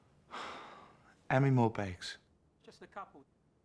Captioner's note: sighs